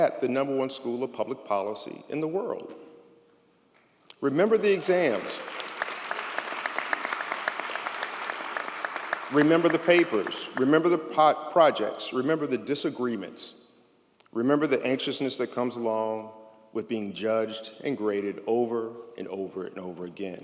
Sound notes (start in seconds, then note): 5.1 audience applauds